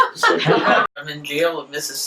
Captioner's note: audience laughter